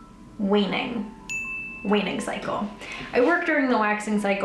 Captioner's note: bell ringing